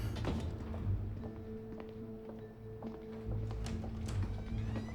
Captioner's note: hinges squeaking; shoes clacking